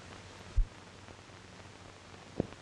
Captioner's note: none